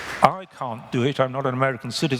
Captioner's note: applause